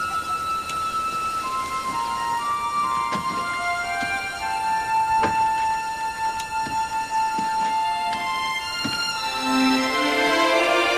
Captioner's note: wagon Departing; weeping